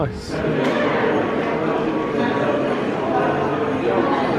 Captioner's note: indistinct chatters